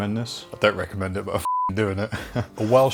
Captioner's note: beep